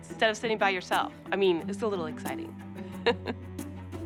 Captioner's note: chuckles